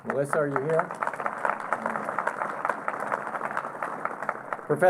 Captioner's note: applause